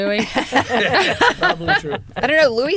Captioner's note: laughter